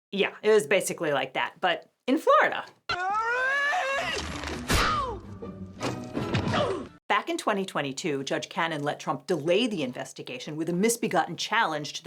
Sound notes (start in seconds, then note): 2.9 intruder screams; 4.6 intruder moans; 5.7 object thuds; 6.7 intruder moans